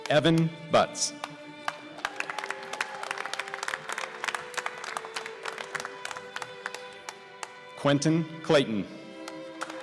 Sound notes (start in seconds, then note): 1.6 applause